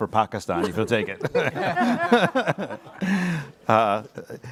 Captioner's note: laughter